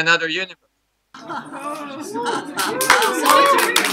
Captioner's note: applause